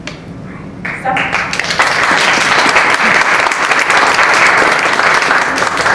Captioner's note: applause